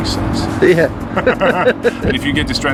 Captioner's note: laughing